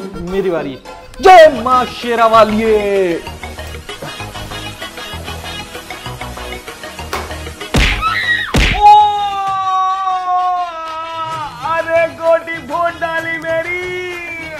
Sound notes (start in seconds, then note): 8.8 crying